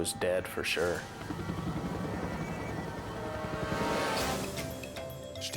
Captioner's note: helicopter whirring